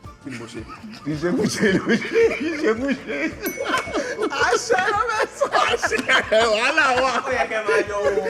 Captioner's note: everyone laughs